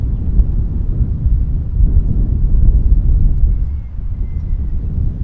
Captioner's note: wind rustling continues